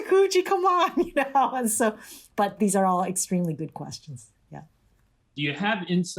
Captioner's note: laughter